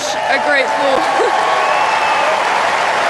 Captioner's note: cheers Applause